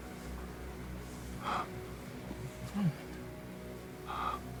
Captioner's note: Lance gasping